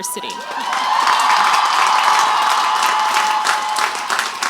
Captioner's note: crowd applauds